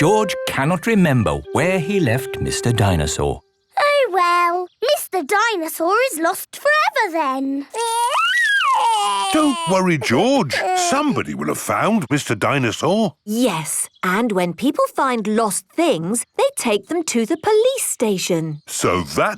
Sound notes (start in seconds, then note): 7.7 crying